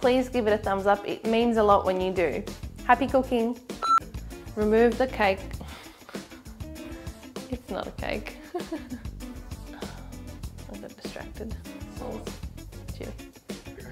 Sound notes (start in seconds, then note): 3.8 beep; 5.6 upbeat music